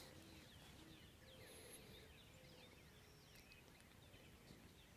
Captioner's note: birds tweeting